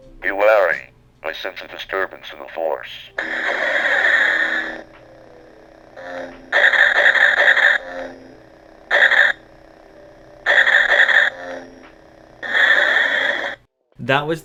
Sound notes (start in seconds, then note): 3.1 Lightsabers sounds